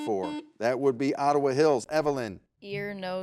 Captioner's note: buzzer beeps